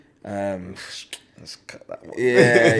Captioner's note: laughs